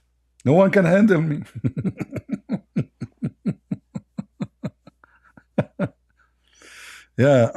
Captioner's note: Ketawa